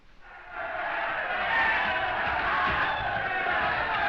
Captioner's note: all chanting